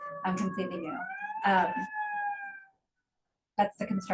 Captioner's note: siren wailing